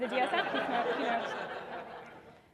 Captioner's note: audience laughing